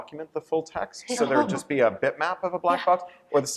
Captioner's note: laughter